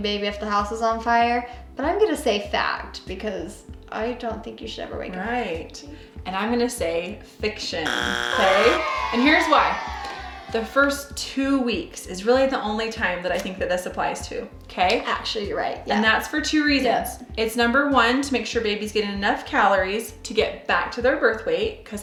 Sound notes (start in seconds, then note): 7.8 buzz; 8.3 audience booing